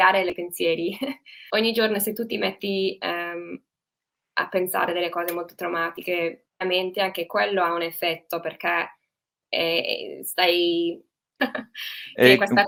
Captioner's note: interferences